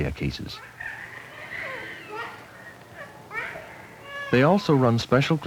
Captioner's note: babies crying